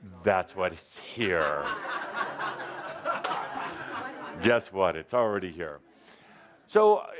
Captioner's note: laughter